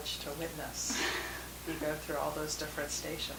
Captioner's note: chuckling